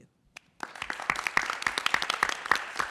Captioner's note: applause